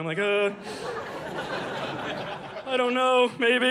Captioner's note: audience laughing